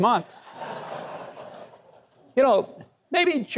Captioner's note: audience laughs